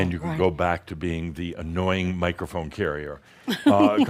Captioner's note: she giggles